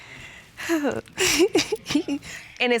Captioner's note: giggling